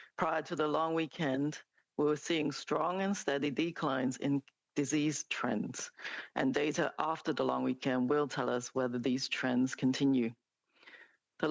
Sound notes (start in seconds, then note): 1.6 speaking French